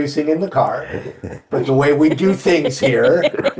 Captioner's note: chuckling; laughing